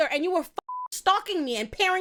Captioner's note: beep